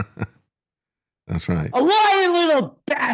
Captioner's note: laughing